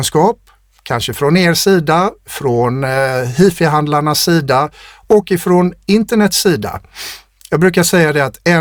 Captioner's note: scoffs